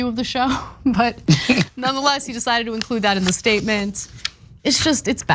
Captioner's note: laugh